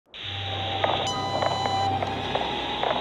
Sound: radio static, beeping

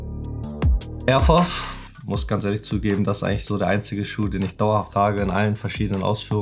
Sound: speaking foreign language

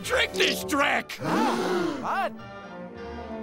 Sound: gasping

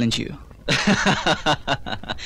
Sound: laughing

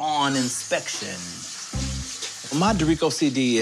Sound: tap water gushing

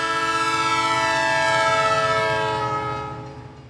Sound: train horn increases, then fades

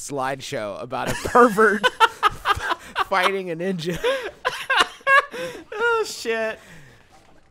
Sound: laughing

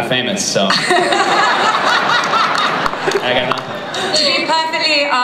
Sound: laughter

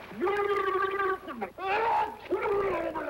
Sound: gurgling under water

